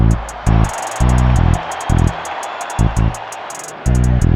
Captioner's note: crowd cheering